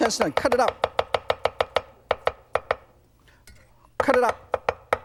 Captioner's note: knife tapping